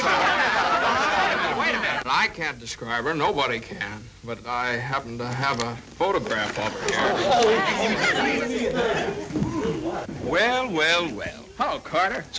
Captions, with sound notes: (overlapping chatter) - Wait a minute, I can't describe her. Nobody can. But I happen to have a photograph of her here. (crowd chatter) - Well, well, well. - Hello, Carter.